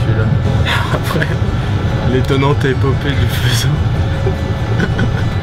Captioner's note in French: rires